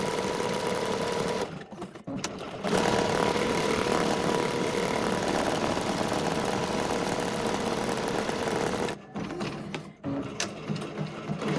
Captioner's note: machine whirring